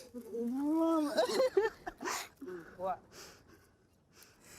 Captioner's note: cries